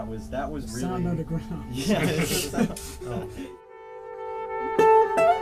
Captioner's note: laughter